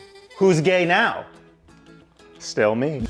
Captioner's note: none